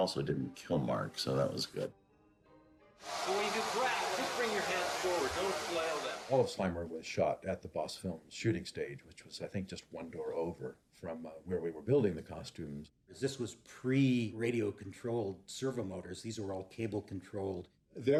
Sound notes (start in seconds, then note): 3.3 roaring